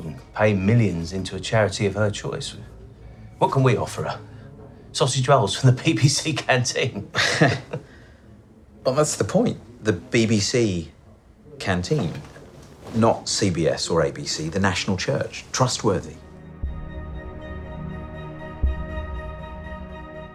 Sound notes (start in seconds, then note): 7.1 laughs; 15.8 suspenseful classical music